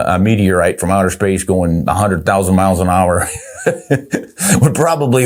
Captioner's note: chuckles softly